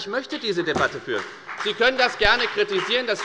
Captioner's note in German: Beifall bei der FDP